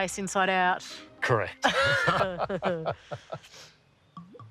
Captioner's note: both laugh